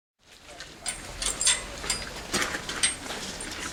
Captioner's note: chain Rattling